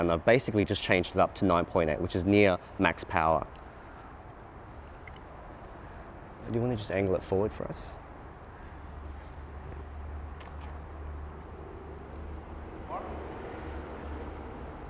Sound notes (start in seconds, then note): 10.4 clicking